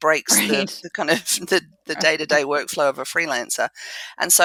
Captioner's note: laugh